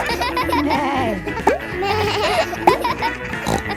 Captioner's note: neighs; bleats